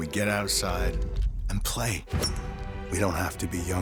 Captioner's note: SFX: golf stroke